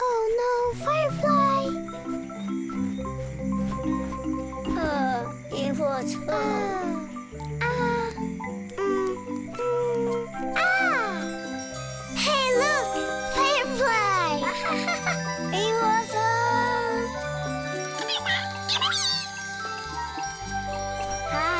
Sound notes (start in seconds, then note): 0.0 speaks in foreign language; 2.6 gentle music; 5.2 speaks in foreign language; 11.7 chimes tinkling; 14.4 brown haired duck laughs; 16.0 brown haired duck speaks in foreign language; 18.2 firefly chirping